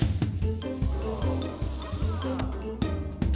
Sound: audience ahs; audience gasps

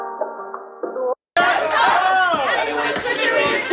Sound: crowd

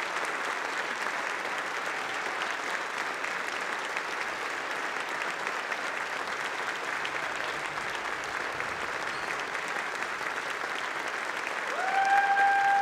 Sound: applause

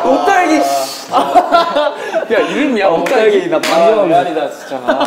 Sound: laughing

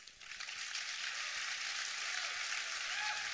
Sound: applause

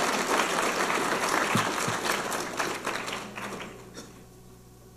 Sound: audience applauding

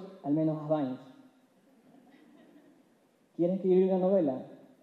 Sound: laughs

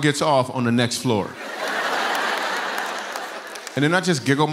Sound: laughter

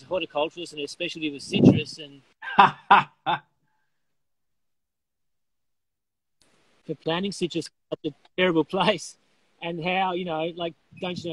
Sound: laughing

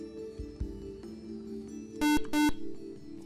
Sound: buzzer

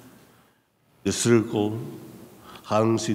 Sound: speaking in a foreign language

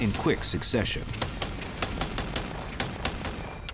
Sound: gunshots

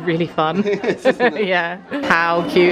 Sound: laughs

